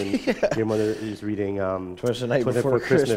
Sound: chuckle

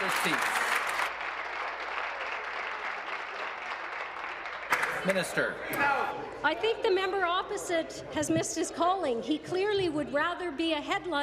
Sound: applause

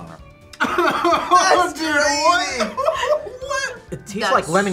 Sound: laughs

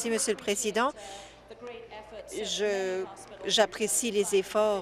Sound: applause

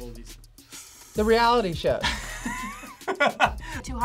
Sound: laughs

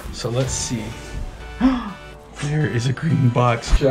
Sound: gasp

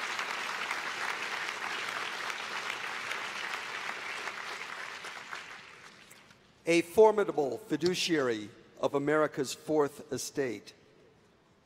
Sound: applause

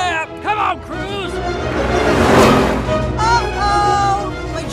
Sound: racing sound

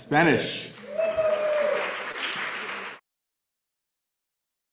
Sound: audience applauding

